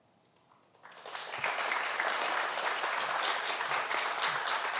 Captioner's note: everyone applause